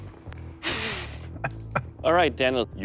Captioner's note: laughs